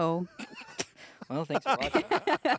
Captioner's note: everyone laughs